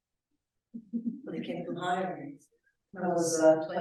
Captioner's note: audience giggling